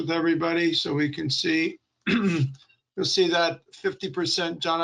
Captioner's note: clearing throat